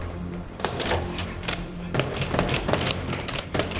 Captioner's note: rattling; panting